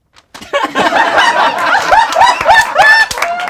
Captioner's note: laughing